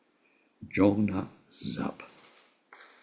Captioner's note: tibetan